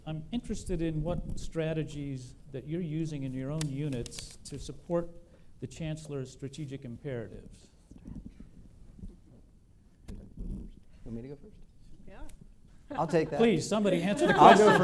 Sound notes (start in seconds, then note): 7.2 whispering